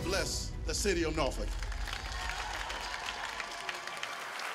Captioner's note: applause